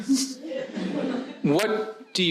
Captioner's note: audience laughing